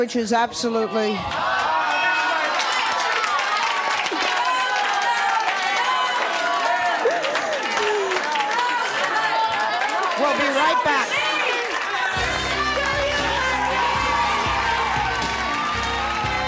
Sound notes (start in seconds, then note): 2.8 applause; 2.8 sobs; 12.9 laid back jazzy music